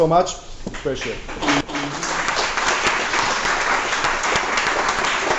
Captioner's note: applause